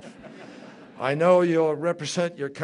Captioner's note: laughter